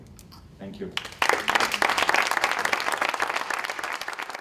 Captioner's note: applause